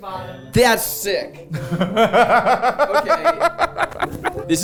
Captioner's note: laughing